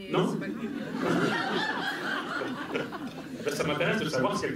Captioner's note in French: rires